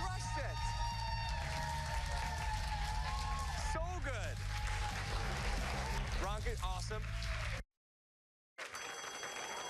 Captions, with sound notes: I'M GOING TO GIVE IT TO YOU WHEN WE COME BACK. I'M TELLING YOU THAT WAS AWESOME WE COME BACK. I'M TELLING YOU THAT WAS AWESOME JUGGLE, GIRL, YOU CRUSH IT. I'M TELLING YOU THAT WAS AWESOME JUGGLE, GIRL, YOU CRUSH IT. [ CHEERS AND APPLAUSE ]